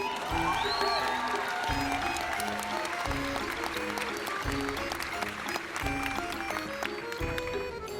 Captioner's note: applause